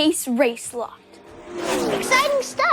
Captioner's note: engines racing